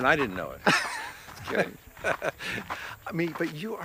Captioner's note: both laugh